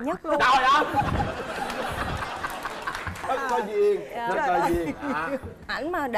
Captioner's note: laughter